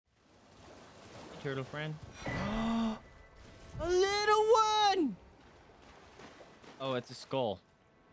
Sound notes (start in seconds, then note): 2.3 excited gasp